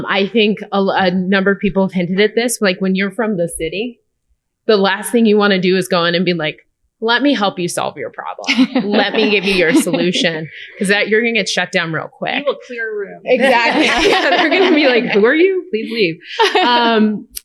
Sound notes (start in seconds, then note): 13.4 laughter